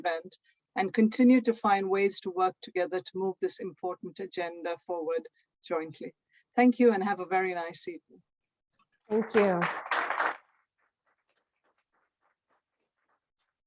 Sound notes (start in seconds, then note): 9.1 applause